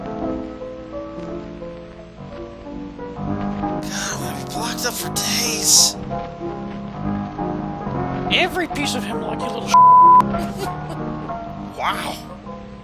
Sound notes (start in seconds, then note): 3.5 as kid, under his breath; 10.2 laughing